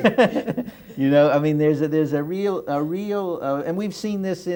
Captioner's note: laughter